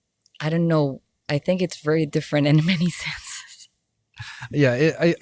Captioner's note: laughs